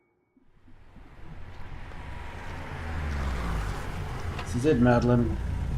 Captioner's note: car pulling up and idling